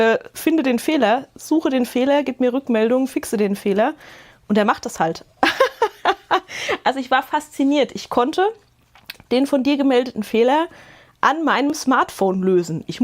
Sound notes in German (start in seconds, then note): 5.4 Gelächter